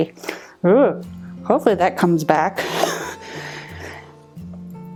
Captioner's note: laughs